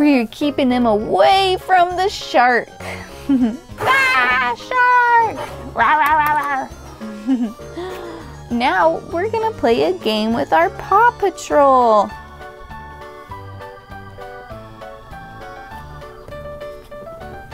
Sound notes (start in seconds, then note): 6.2 growling; 7.6 giggles